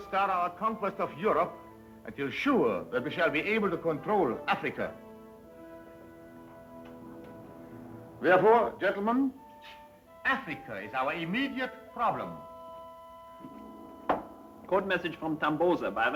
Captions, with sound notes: - And so we must not start our conquest of Europe until sure that we shall be able to control Africa. Therefore gentlemen, Africa is our immediate problem. (boot heels clicking) - Code message from Tambosa by radio,